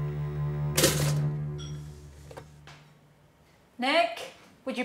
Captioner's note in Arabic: موسيقى حزينة; فرقعة الخبز المحمص